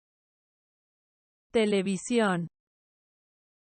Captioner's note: Spanish